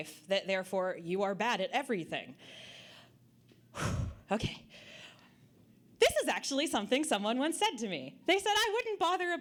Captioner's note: sighing